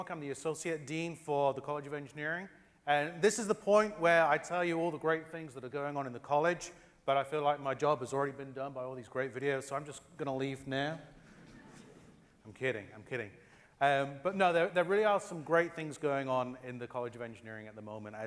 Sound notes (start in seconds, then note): 10.8 laugh